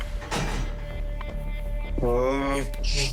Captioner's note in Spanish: Quejidos